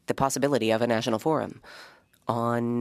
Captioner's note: speaking French